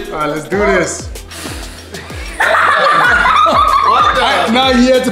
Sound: air swooshing; all laughs

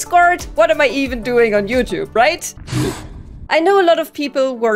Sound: sharp intake of breath

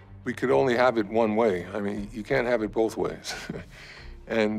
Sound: laughs

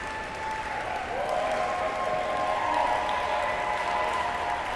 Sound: audience cheers

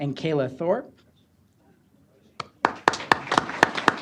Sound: applause

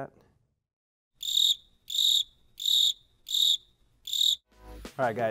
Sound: crickets Chirping

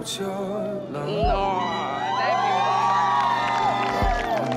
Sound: crowd cheering

